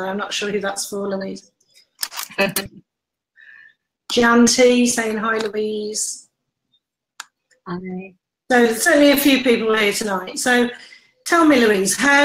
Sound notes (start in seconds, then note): 2.3 laughs